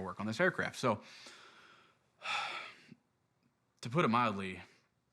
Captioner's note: sighing